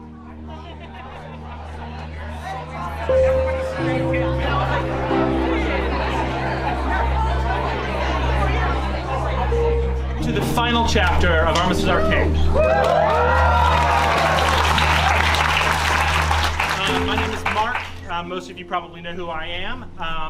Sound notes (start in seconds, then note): 12.5 cheering